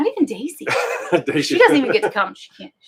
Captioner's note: laughing